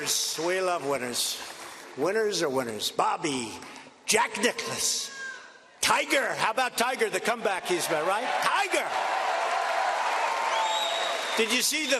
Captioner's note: cheers and applause